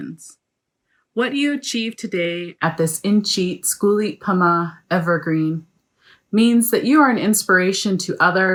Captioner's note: non-english